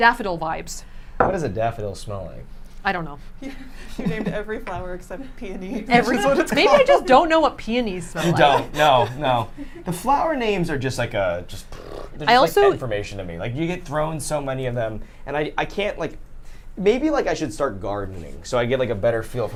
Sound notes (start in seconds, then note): 6.0 all laugh; 11.6 blows raspberry